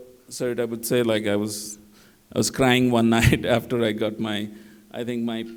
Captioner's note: laughter